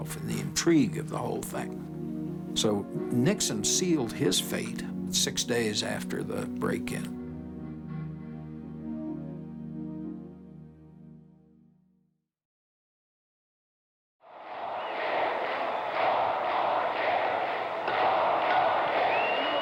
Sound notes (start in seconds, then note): 14.3 chanting